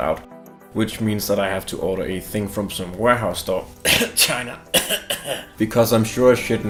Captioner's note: cough